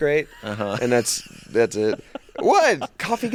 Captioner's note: hosts laughing